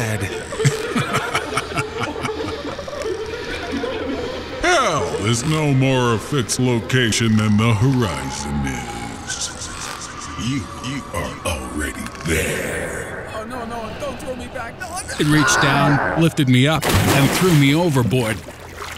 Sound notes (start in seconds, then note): 0.2 evil Laughter